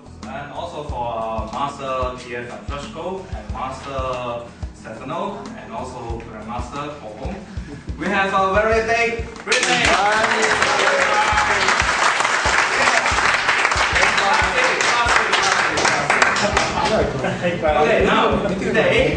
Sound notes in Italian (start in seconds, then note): 9.4 Applauso